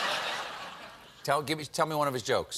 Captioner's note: laughter